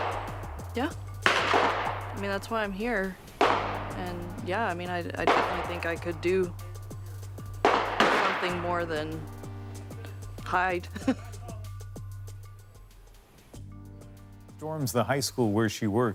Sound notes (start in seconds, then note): 3.1 gunshots